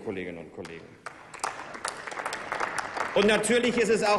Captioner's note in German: Applaus